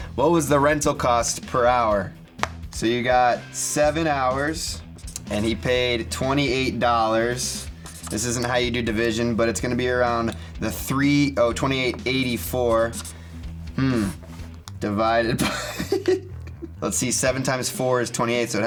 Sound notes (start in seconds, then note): 15.3 laughs